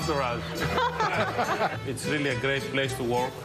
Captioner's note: laughter